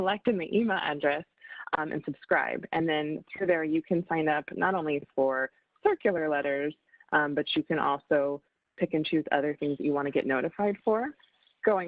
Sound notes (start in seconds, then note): none